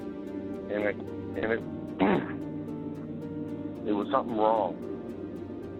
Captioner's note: coughing